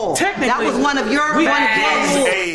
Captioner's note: overlapping chatter